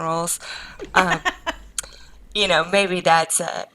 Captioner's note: laughs